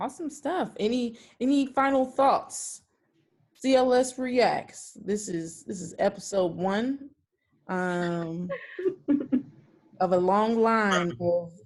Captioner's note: laughing